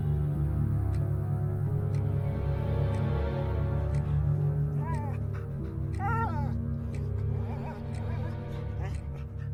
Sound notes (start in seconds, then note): 5.9 dog crying